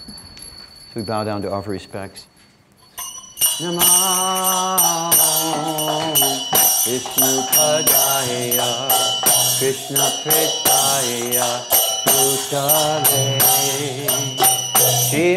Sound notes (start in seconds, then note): 3.7 bells chiming; 3.7 chanting